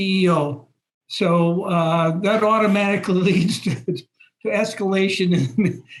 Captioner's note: laugh